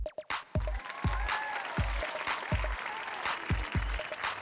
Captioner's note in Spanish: Aplauso